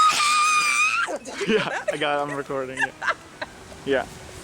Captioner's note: screams